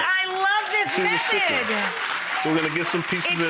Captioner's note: crowd cheering and applauding